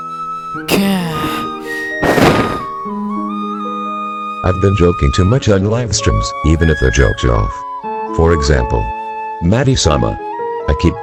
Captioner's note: sighs